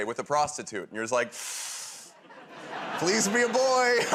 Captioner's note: inhales sharply